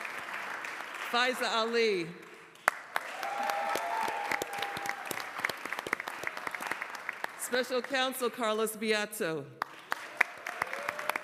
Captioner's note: applause